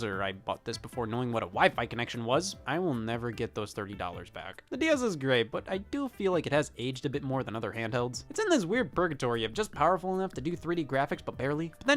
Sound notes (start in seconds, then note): none